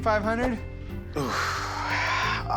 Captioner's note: sighs